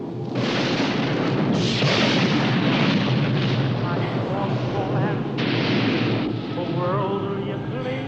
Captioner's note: lightning crackles, thunder claps